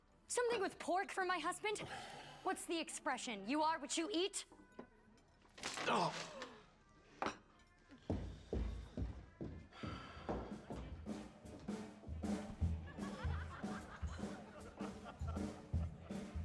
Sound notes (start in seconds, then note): 8.6 footsteps receding; 12.7 customers laughing